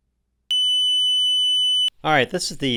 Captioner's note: tone generator beeping